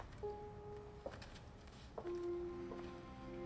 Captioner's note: shoes clacking